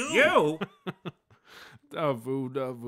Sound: chuckles

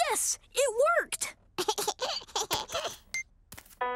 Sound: laughing

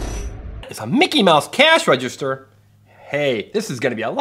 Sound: voiceover

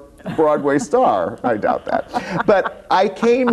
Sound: laughs

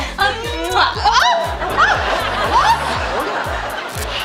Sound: squealing

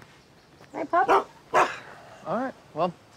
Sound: Dancer barks

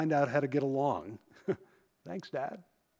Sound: chuckles

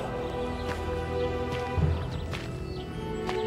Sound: footsteps

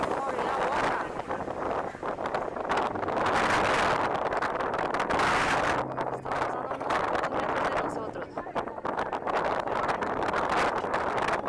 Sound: windy

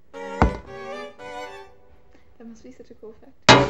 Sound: hits music stand with bow

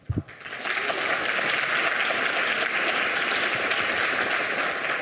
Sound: audience applauding

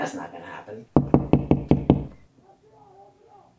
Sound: bangbangbangbangbang

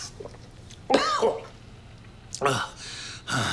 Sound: coughs

